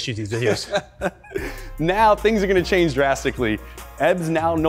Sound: laughing

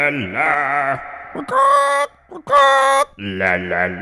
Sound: parrot squark

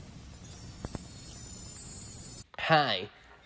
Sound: twinkling

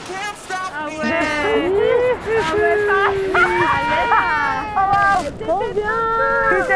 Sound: skiers laughing; cheering

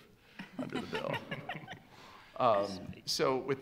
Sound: laughs

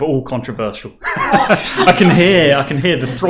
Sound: laughing

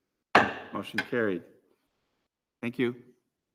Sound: gavel raps

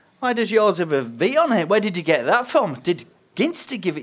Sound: none

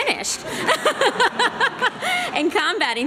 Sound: laughter

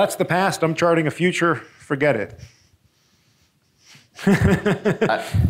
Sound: chuckles

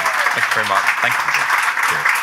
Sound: audience applauding; audience cheering

